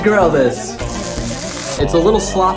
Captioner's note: grill hiss